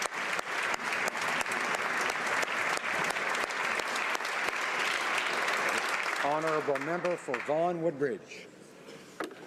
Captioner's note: applause